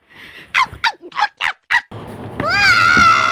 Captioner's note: Toad cries of pain; Toad scream